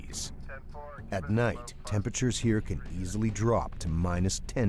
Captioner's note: voiceover